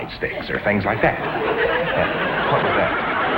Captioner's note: audience laughs